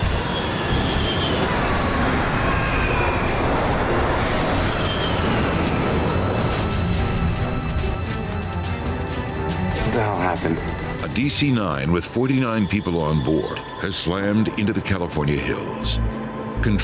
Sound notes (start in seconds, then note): 0.0 wind whining; 0.1 dramatic music; 6.6 aircraft exploding